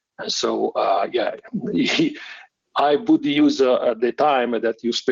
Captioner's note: chuckles